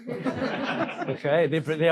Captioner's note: audience laughing